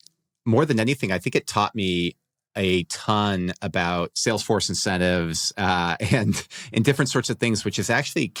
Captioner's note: laughs